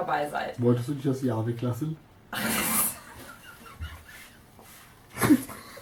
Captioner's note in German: Aus dem Off; Lacht